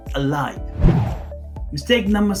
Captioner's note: air swooshing